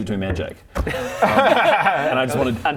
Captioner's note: fiendish laughter